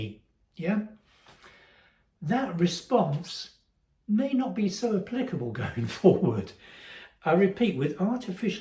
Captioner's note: laugh